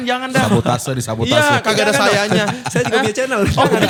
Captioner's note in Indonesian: tertawa